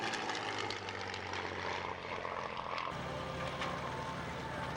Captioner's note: engine roaring